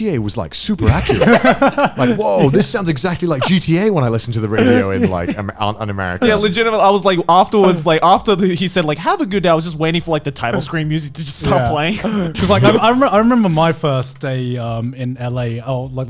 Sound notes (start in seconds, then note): 1.3 laughing